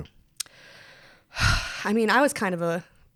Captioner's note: sighs